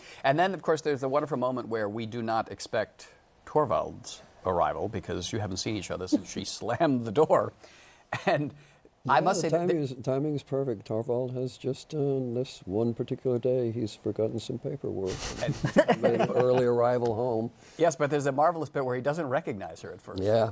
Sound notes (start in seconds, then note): 6.1 chuckles; 15.1 laughter